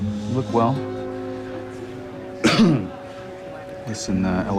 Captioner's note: coughs